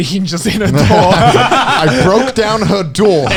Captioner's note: laughing